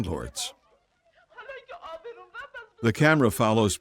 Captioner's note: woman speaking foreign language